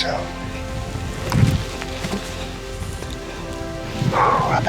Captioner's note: wind swooshing; exhales